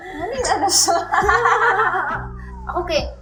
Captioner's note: laughter